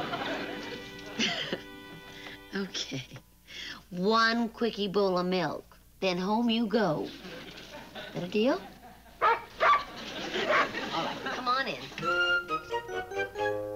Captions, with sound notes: Okay, one quickie bowl of milk, then home you go. Deal? (barks) All right, come on in.